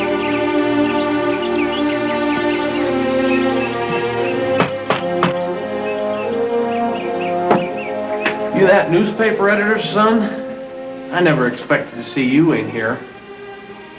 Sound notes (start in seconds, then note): 4.5 knocking; 7.4 thunk